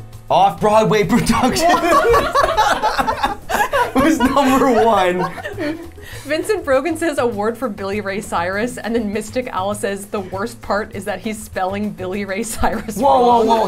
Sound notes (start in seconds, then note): 3.3 laughs